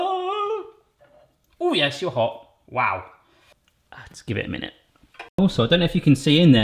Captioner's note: groaning